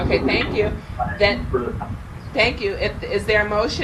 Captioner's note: man murmurs